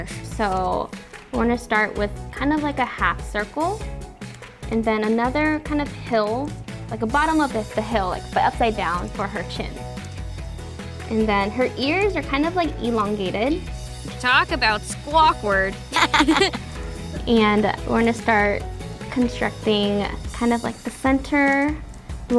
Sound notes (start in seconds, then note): 15.9 laughs